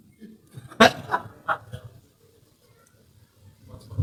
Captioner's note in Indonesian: tertawa